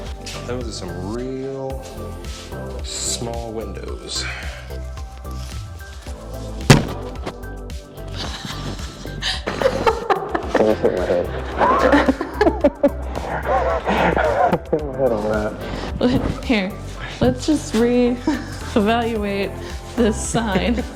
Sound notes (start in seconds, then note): 6.6 banging Sound; 8.2 laughter